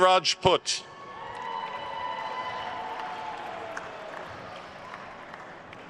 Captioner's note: attendees cheering and applauding